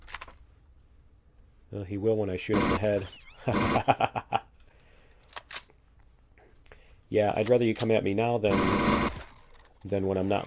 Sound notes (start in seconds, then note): 3.1 laughs; 5.1 reloading